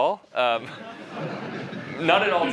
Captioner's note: laughter